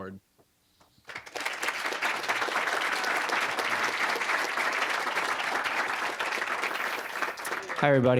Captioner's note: applause